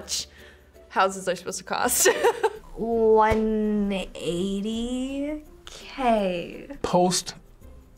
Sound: laughs

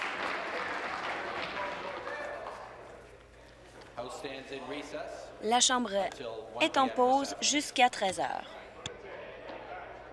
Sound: applause

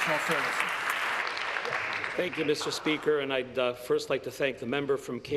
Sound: applause

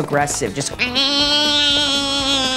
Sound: bleets

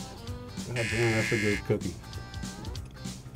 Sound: buzzer

